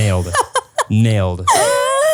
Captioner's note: laughs